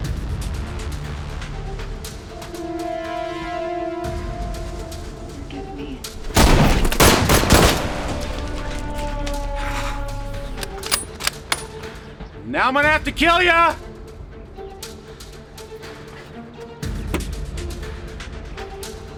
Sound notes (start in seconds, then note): 6.2 guns firing; 14.6 suspenseful music